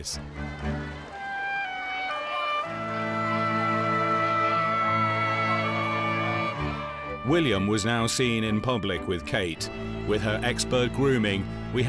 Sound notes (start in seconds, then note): 1.5 gentle music; 1.5 people chattering